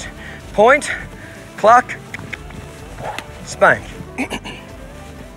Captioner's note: mouth clicking